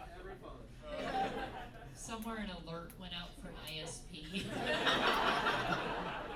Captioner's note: laughter